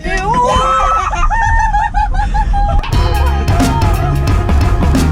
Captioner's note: passengers scream